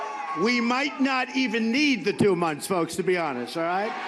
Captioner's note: cheering